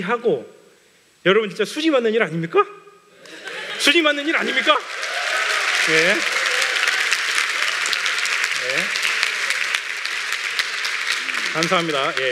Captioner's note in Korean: 웃음; 박수